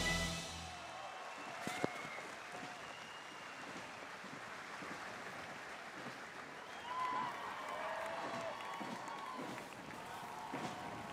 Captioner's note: applause